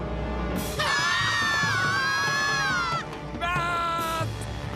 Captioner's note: screaming